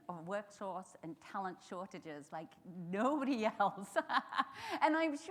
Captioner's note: chuckles